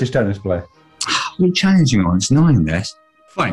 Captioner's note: sighs